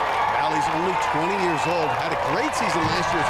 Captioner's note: cheers and applause